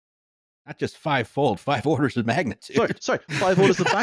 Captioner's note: laughing